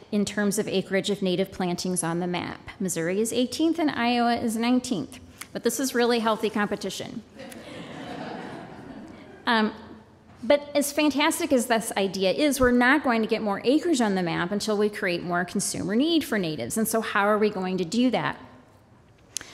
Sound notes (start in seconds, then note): 7.3 laughter